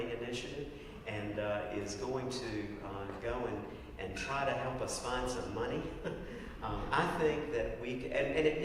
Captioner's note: laugh